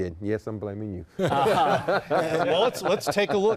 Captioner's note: laughter